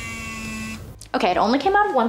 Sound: machine whirs

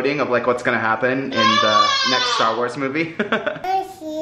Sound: giggling

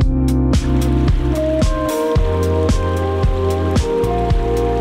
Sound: water bubbling

